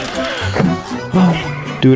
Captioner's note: inhales Oxygen; exhales Oxygen